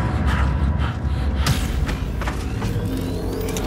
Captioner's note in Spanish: Respiración agitada